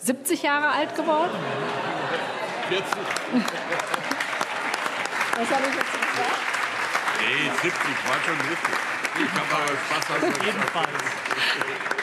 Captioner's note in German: Heiterkeit und allgemeiner Beifall